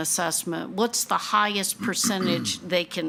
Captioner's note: attendee clears throat